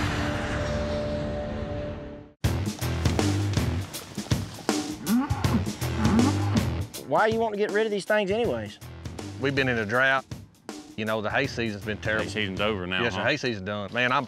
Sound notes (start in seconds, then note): 4.9 bull groaning